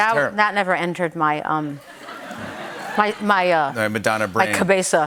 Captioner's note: laughter